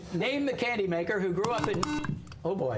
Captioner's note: buzzer